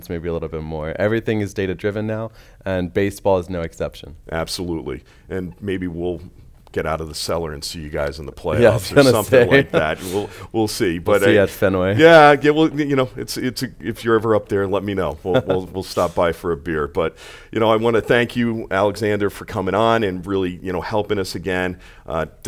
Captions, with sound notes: maybe a little bit more. Everything is data driven now and baseball is no exception. >> Absolutely, and maybe we we'll get out of the cellar and see you guys in the playoffs or something like that. (chuckles) We'll, we'll see. >> We'll see you at Fenway. >> Yeah, we'll, you know, it's, it's, if you're ever up there let me know, we'll, we'll we'll stop by for a beer. But you know, I want to thank you Alexander for coming on and really, you know, helping us again.